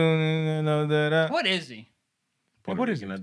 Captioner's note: non-english Speech